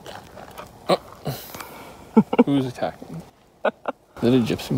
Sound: laughing

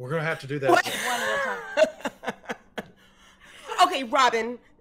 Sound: Fairuza laughing

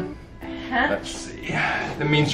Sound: mumbles

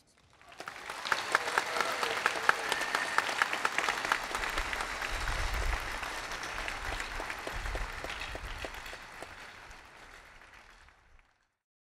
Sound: applause

